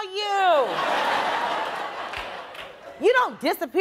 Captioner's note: audience laughing